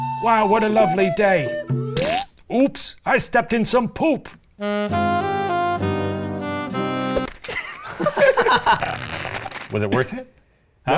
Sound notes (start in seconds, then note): 2.0 blows raspberry; 4.6 somber music; 7.4 laughs